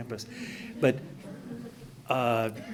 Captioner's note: laughing